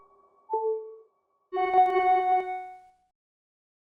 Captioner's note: clock ticking; phone chimes